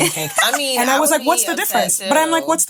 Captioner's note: laughing